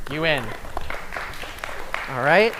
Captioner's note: applause